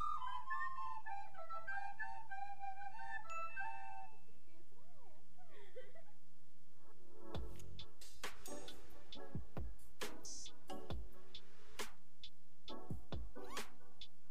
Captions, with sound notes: - You did good, that's good! (girl giggling) (cool vibe music)